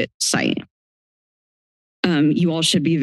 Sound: silence

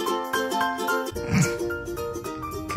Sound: snickering

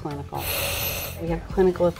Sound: machine pumping air

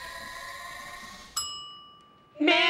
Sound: timer dings

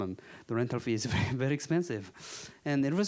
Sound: chuckling

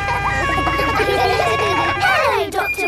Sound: kids laughing

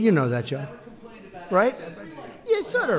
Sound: off-mic

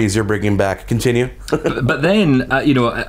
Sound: laughs

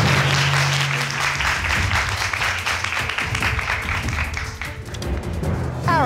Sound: crowd clapping

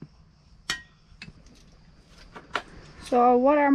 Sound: tools clanging in tool box

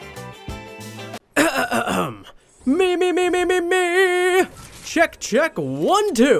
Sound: clears throat

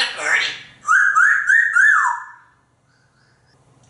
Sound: whistles

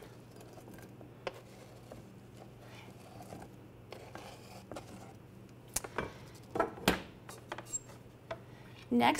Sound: knife scraping cutting board

